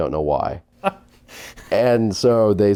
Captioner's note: laughing